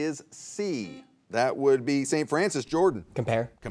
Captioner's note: buzzer beeps